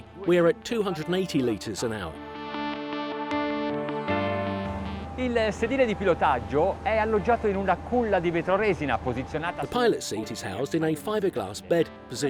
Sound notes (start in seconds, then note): 4.7 speaking in foreign language